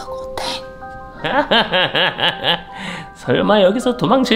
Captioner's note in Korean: 들뜬 웃음